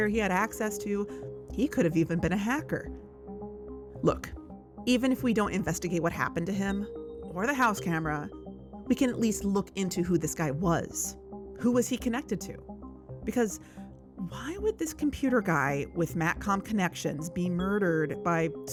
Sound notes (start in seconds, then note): none